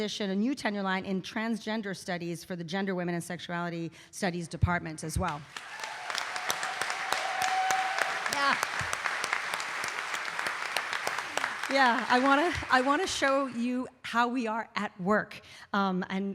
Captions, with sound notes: a new tenure line in transgender studies for the gender, women, and sexuality studies department as well. (audience applauding) (audience cheering) Yeah, yeah. I want to show you how we are at work,